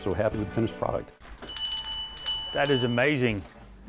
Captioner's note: bell ringing